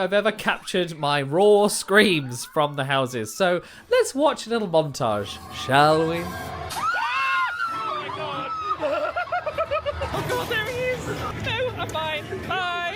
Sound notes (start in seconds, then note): 7.0 screams